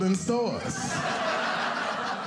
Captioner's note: audience laughing